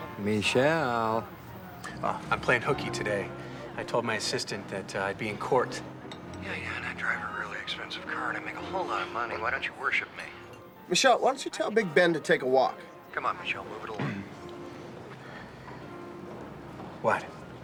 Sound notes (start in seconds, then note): 13.9 clears throat